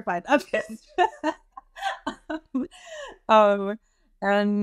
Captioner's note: laughs